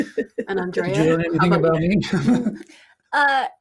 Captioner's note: chuckling